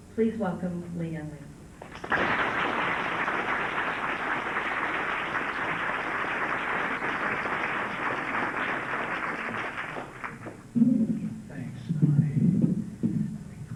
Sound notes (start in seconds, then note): 1.8 clapping